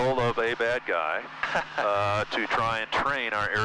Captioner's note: laughing